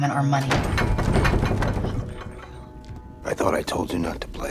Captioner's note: furniture rattles